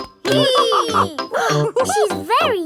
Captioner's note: both straining; madam gazelle laughing; giggles